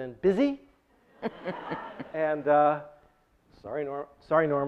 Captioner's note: audience laughs